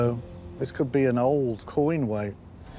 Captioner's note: none